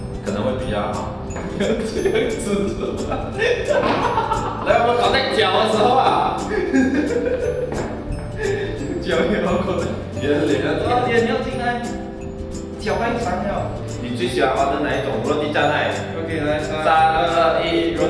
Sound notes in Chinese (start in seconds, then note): 3.3 吸气; 3.3 爆笑